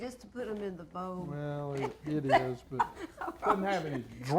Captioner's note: laughing